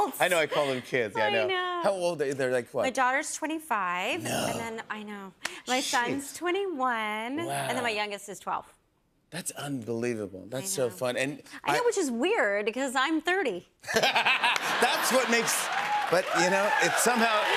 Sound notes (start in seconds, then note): 13.8 laughter; 14.4 cheers and applause